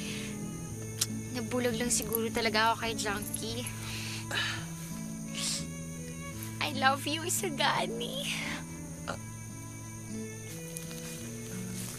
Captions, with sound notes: -I just got blinded by Junkie. -[exhales] I love you Isagani.